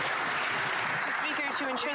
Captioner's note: some Applause